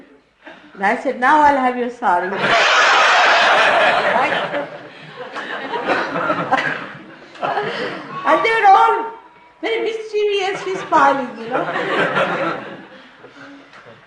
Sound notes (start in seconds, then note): 2.3 laughter; 3.5 Shri Mataji also chuckles